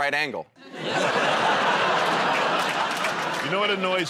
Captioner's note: laughter